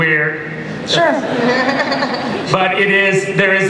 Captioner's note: laughter